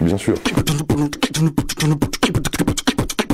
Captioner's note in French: beatbox